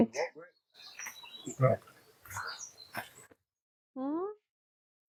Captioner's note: bird song